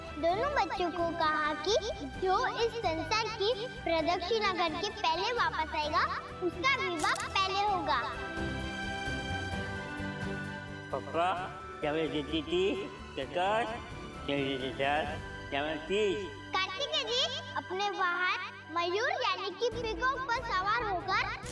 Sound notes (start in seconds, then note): 10.8 Golu talking gibberish